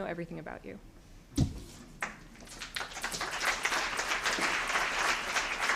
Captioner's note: applause